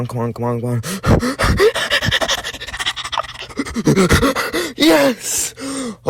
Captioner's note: heavy_ _breathing.mp3